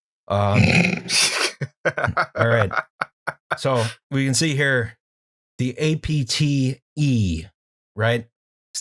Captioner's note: laughter